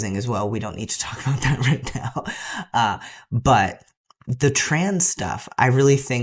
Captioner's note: laugh